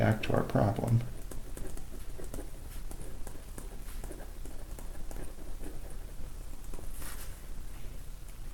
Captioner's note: writing Sounds